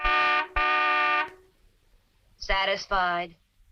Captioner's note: car horn blaring